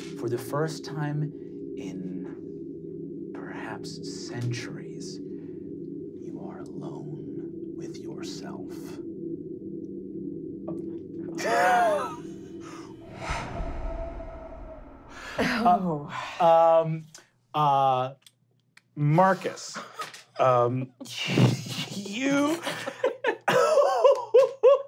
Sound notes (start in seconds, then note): 11.4 laughing; 13.5 wind blowing; 22.5 laughing